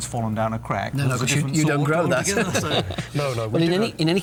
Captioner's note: laughs